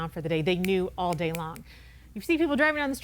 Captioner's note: finger snapping